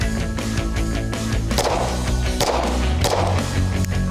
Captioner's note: gunshots